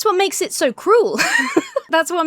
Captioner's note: laughs